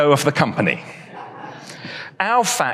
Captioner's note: audience laughs